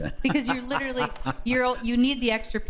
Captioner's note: laughs